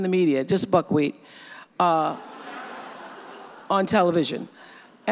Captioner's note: audience laughs